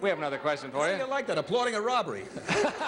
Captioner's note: laughter